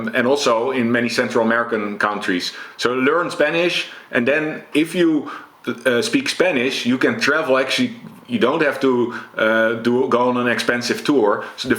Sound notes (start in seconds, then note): none